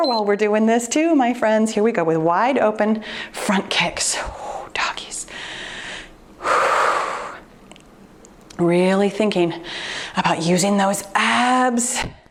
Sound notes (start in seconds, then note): 4.7 whispers; 6.4 exhales deeply